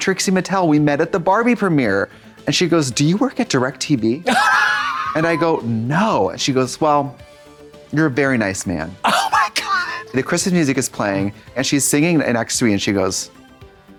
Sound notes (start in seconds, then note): 4.8 hisses